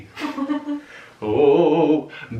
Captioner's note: laughing